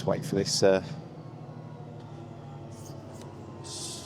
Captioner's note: train whirring